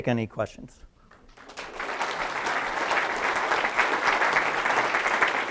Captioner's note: applause